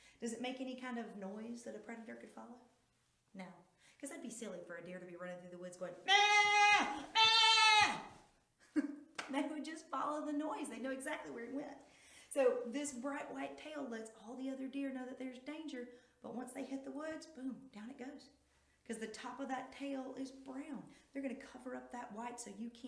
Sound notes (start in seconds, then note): 9.5 wailing